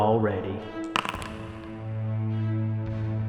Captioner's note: dice rolling